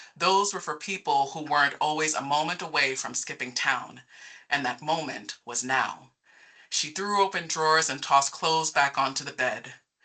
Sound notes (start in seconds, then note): none